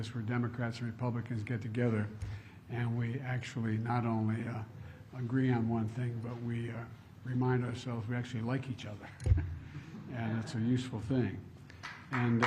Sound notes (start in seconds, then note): 9.6 laughs